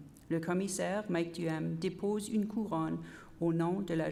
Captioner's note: repeated in French